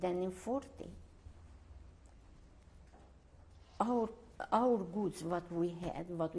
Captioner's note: pauses for 3 seconds